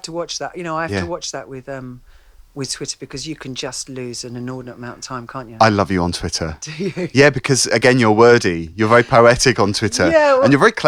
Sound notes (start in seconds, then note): 6.6 laughs